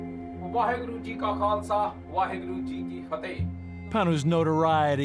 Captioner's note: speaking Punjabi